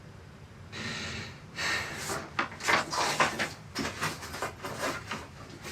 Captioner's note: Billy deeply breathes